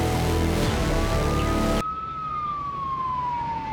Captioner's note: sirens blaring